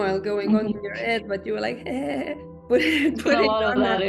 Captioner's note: laughs